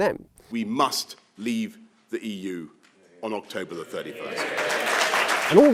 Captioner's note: cheers